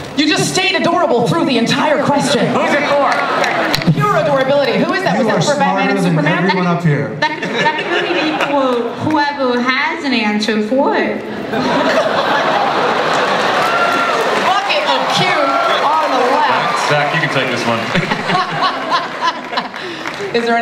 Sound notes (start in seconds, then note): 8.0 voiceover; 11.4 laughter; 17.8 laughter